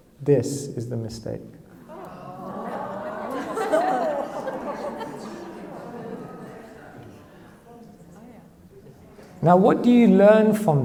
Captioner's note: audience laughs